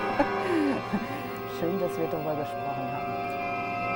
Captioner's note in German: lacht